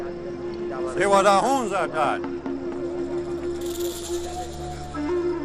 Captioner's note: Theyanoguin speaking Mohawk